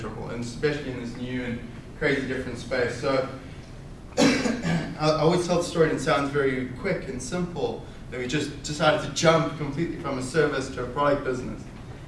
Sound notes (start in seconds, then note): 4.1 coughs